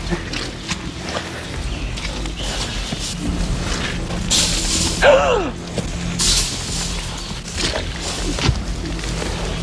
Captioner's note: massive feral boar huffs and clacks tusks against the wire fence panels